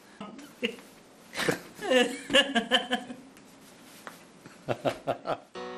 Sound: laughing

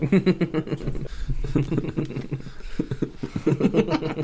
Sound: suspicious Laughing

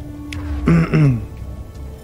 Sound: clears throat

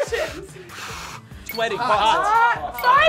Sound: Nabiyah blows air; bell dings

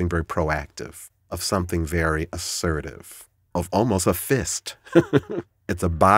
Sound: laughs

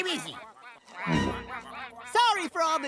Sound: ducks quacking

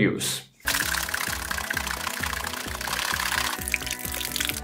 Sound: fast sloshing

